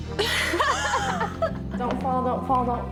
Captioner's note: contestants laughing